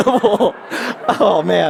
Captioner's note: laughter